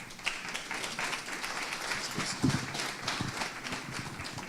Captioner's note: applause